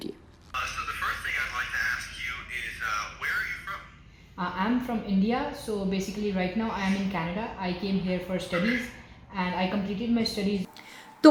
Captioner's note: conversation in English